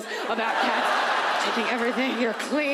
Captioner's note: audience laughs